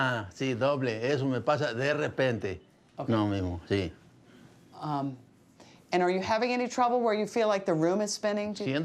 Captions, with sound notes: - You're seeing four-- you're seeing double. (Man speaking in Spanish) - Okay. Um, and are you having any trouble where you feel like